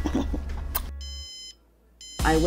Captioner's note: alarm beeping